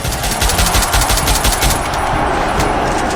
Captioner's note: pew pew pew